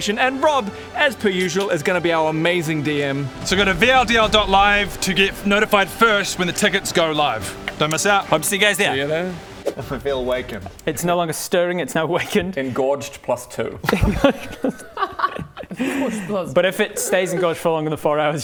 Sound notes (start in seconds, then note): 13.8 erect laughter